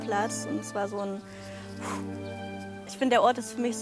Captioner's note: sigh of relief